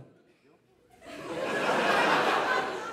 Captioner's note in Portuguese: risos